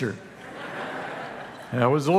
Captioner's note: congregation laughing